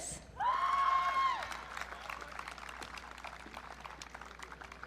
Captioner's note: audience cheering